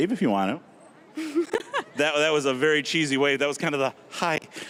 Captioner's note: giggling